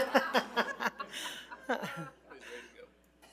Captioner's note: attendees laugh; laughs